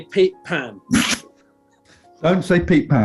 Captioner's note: sniggering